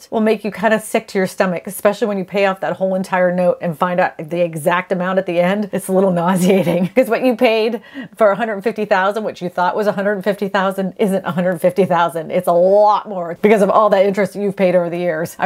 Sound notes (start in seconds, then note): 6.2 laughs